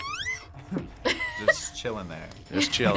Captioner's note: both laugh; laughs